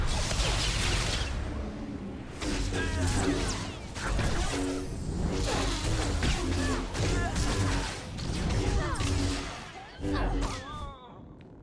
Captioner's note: gunfire